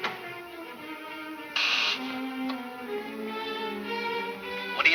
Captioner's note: intercom buzzes